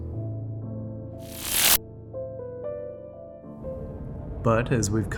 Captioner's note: electricity buzzing